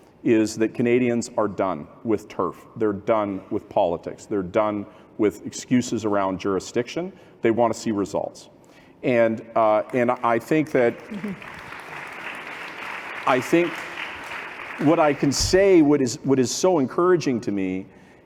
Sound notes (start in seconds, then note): 9.8 applause